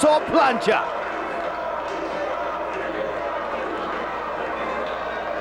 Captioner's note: spectators chanting "Sabu!"